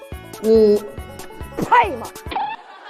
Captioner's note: pff